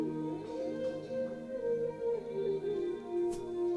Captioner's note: soft sobbing